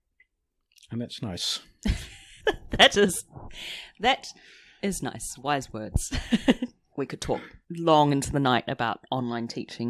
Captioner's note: laughs